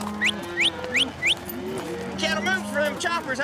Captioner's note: whistling